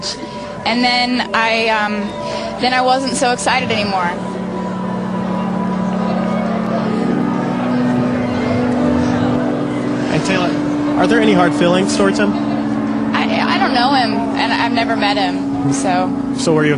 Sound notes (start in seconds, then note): 4.2 audience Boos